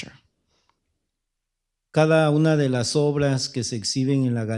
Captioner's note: speaking spanish